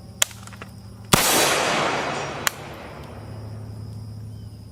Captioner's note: fires gun